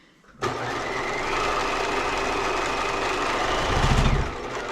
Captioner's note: sewing machine roaring